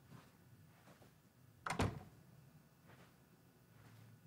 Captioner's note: door closes